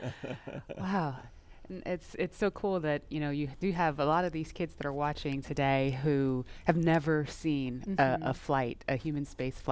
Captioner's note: laughter